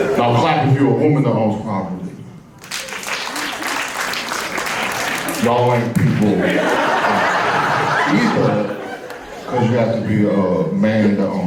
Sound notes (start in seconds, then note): 2.6 moderate applause